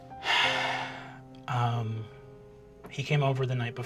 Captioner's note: sighing